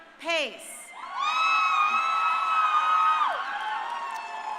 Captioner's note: crowd cheering